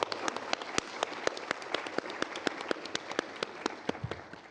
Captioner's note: applause